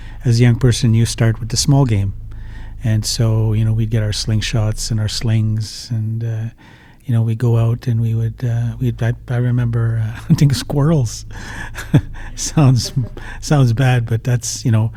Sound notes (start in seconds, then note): 9.9 laughs